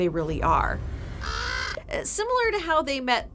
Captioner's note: Three-Eyed Raven cawing